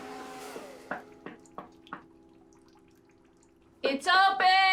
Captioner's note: door knocking